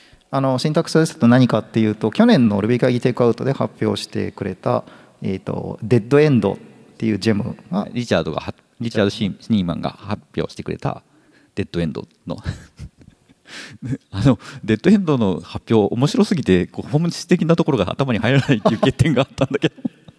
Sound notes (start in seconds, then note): 12.4 chuckles